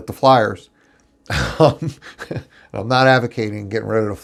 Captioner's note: laughs